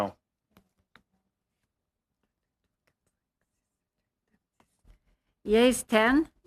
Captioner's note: speaking french